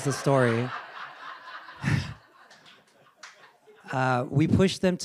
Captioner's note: audience laughing